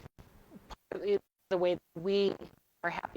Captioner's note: audio distorting